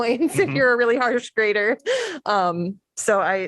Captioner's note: laughter